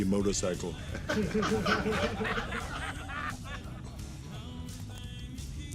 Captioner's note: laughter